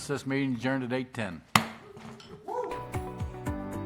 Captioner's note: gavel